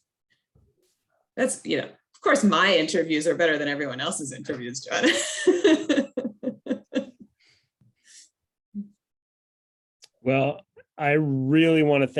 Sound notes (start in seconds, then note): 5.0 chuckling